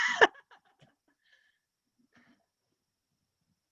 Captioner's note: laughs nervously